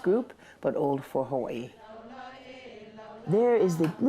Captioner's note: group chanting in Hawaiian